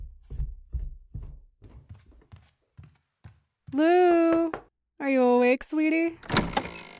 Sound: In Andy’s voice

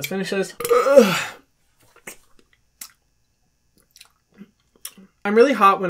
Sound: belching; lip smacking

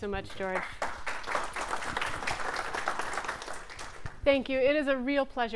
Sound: audience clapping

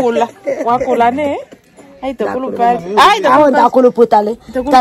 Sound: laughs

